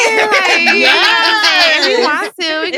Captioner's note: all laughing